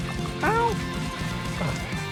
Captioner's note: high-pitched "ow"